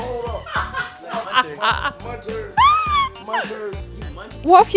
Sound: laughing

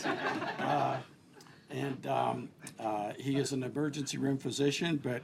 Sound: laughter

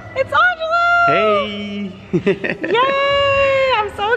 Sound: chuckles

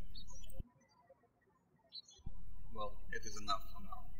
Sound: birds chirping

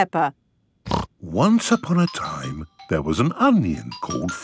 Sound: laughing; snorting

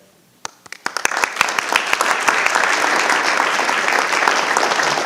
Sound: audience applauding

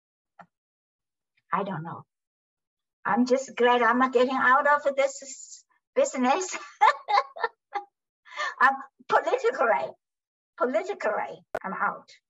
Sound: laughs

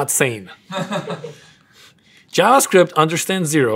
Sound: laugh

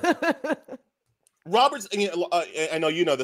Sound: laughs

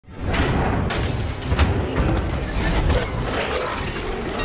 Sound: metal clanging

